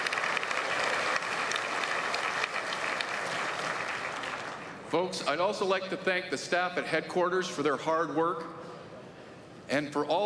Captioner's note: applause